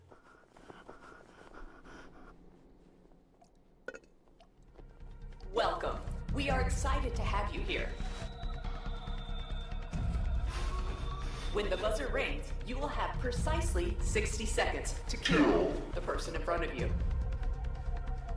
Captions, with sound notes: [heavy breathing] (Computer voice over loudspeaker) Welcome, we are excited to have you here when the buzzer rings you will have precisely 60 seconds to kill the person in front of you